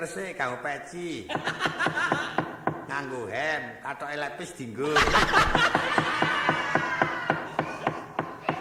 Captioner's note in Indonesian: tertawa